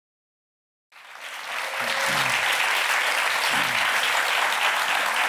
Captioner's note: audience applauding